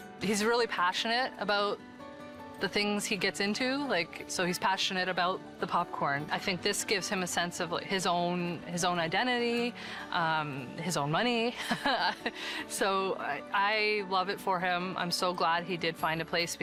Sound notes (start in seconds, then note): 11.6 chuckling